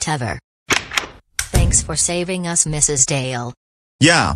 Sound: door opens; door closes

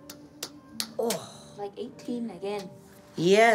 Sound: groans

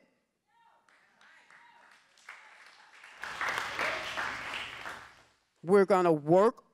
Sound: applause

